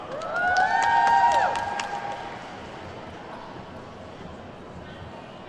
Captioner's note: attendees whooping and clapping